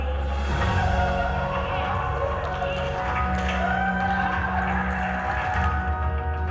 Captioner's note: cheering